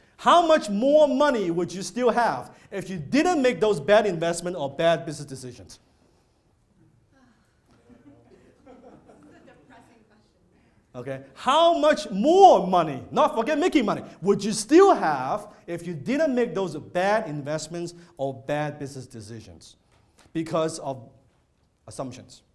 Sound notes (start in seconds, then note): 7.1 murmuring; 7.1 sighing; 8.6 low laughter; 8.6 whispering